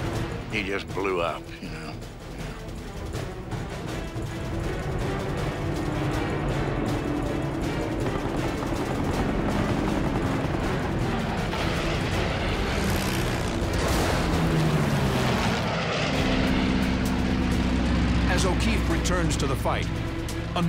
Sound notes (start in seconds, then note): 4.4 intense music plays; 7.9 gunfire